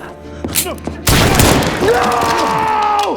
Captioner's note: gun firing